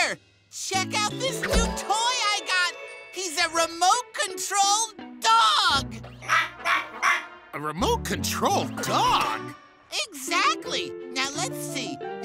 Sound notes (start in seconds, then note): 6.2 robotic barking